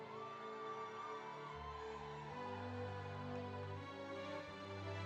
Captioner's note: students cheering